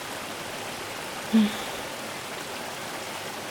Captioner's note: sigh